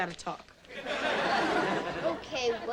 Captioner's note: audience laughing